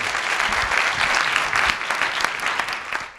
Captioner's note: applause